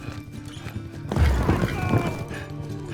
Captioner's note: hooves clopping; men shouting; gasping